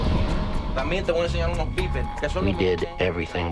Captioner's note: speaking spanish